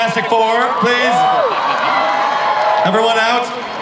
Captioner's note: audience cheers